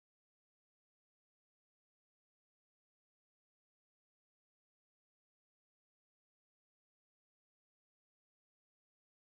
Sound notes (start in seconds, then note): 4.1 radio playing on the background